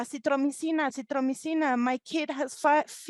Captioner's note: speaking in foreign language